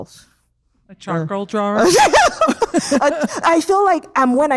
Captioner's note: both laugh